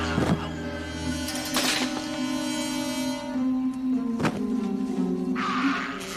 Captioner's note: grunting